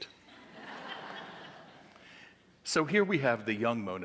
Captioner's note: audience laughing